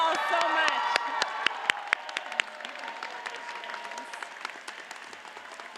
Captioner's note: audience cheers and applauds